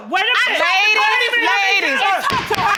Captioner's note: gavel pounding